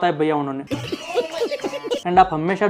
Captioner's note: laughing